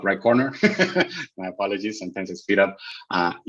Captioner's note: chuckles